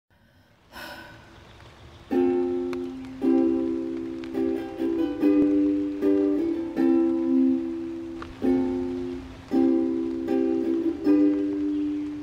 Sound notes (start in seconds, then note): 0.0 ukulele strumming G, C, Am, Em, F; 0.2 sighs